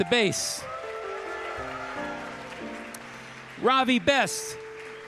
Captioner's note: audience cheering